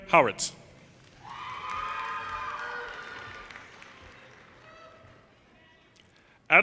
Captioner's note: audience cheers and applause